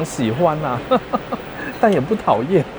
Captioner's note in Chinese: 笑聲